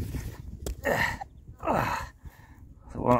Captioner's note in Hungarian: nyögés és nyögés